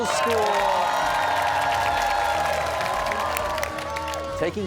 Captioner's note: cheers and applause